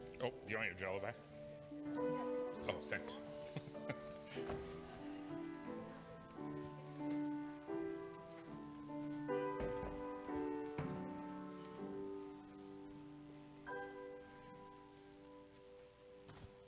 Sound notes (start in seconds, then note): 3.3 laughs; 7.7 audience member shouting